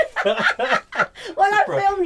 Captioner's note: laughing